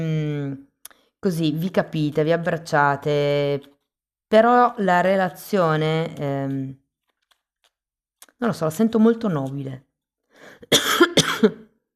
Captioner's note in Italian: tosse